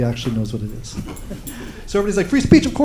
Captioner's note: laughter